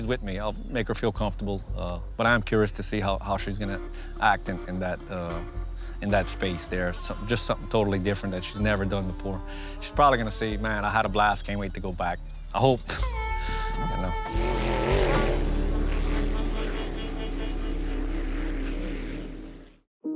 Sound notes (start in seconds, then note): 14.4 laughs